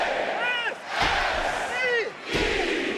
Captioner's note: crowd yells "s"; crowd yells "e"